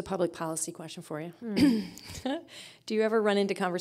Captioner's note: chuckling